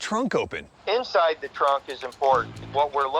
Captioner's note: on speakerphone